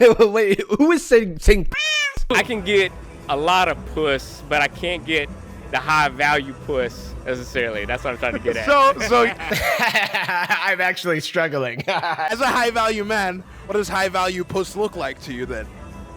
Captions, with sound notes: (laughs) Wait, who is saying- saying p**s. - I can get a lot of puss, but I can't get the high value puss, necessarily, that's what I'm trying to get at. (laughs) - So- so you - (mimics laughter) I'm actually struggling. (mimics laughter) - As a high value man, what does high-value puss look like to you then?